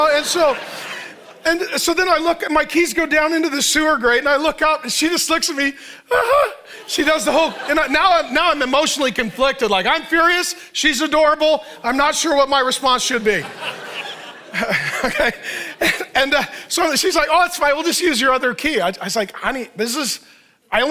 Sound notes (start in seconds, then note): 6.2 mimics nervous laugh